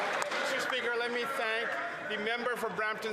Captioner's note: some Applause